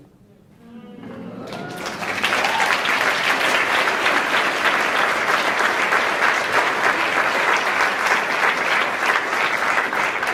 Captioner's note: applauds